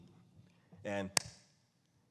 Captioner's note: hand smacks